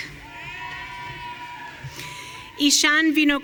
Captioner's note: audience cheering